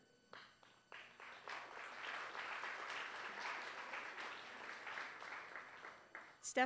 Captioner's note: applause